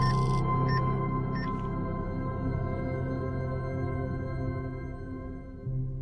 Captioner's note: EKG machine beeping; electronic chime